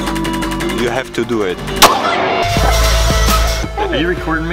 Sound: gunshot banging

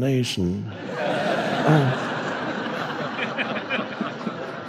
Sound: crowd laughs

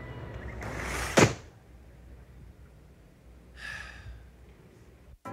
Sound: door banging; person sighing

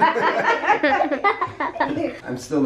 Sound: laughter

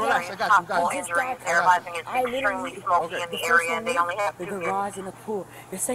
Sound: radio dispatching in background

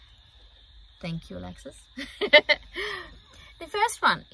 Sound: giggles

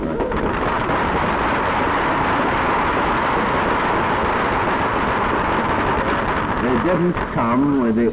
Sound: applause

